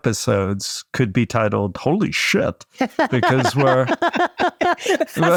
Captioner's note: panelists laughing